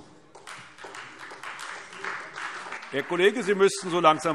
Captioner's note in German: Beifall Freie Demokraten